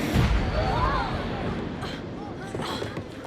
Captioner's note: thunder; screaming